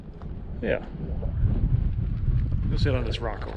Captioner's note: wind whistling